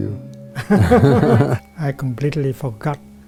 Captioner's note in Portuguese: Risos